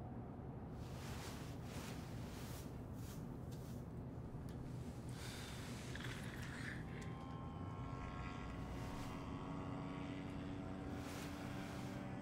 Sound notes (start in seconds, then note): 5.4 June sighs lightly; 7.4 motor buzzing faintly